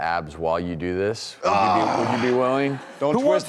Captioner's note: groans